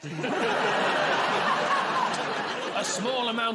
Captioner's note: laughter